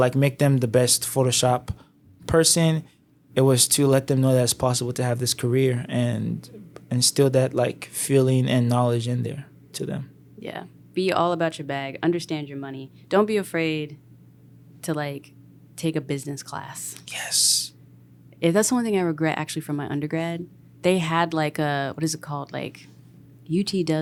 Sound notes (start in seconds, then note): 17.4 whispers